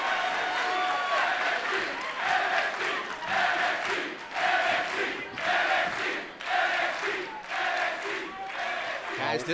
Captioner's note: fans chanting